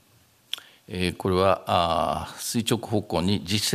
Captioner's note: speaking japanese